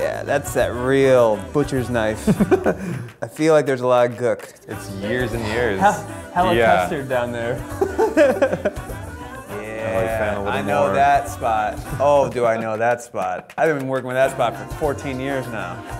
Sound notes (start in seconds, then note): 2.2 laughs; 7.6 laughing anxiously; 11.9 laughing